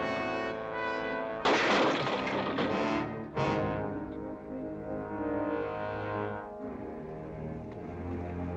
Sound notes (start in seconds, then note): 1.4 crash; 2.2 dramatic music